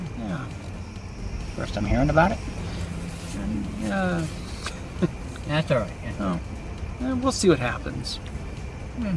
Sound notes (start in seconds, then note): 4.6 laughs